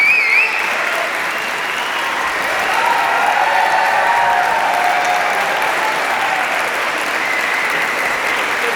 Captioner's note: applause and cheers continue